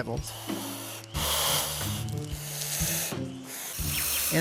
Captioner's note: hissing